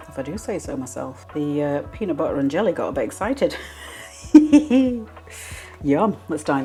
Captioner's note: laugh